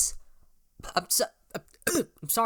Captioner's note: repeatedly burps whilst trying to say "im sorry"